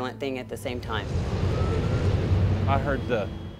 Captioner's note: wind roaring